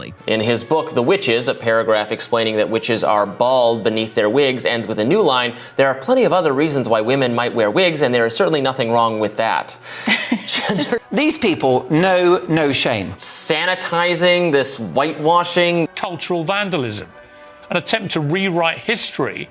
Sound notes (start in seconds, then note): 9.9 both laugh